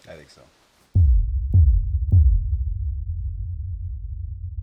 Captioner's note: text thumping